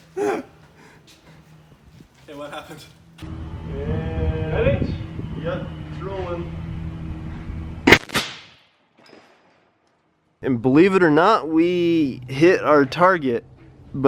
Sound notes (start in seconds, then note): 0.1 laughing; 7.9 banging